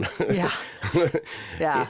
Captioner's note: Joel laughs